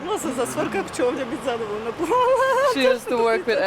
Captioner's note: speaking a foreign language